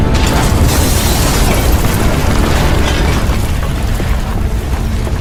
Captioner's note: bomb banging